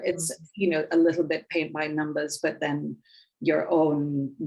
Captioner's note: none